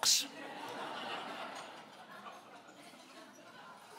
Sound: laughing

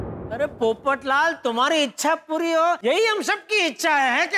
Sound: none

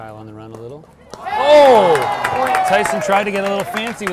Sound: audience applauding and cheering

